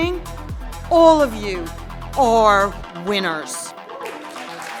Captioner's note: applause